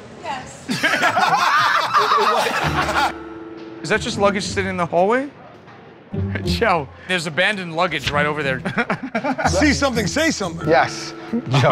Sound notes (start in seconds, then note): 0.6 laughter